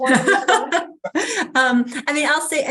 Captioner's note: laughing